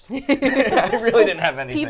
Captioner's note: all laughing